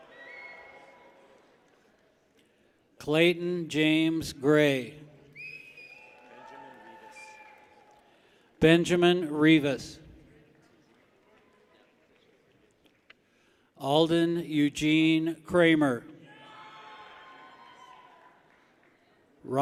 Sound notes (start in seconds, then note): 0.0 people cheer; 5.3 people whistle; 10.3 people clap; 16.2 people cheer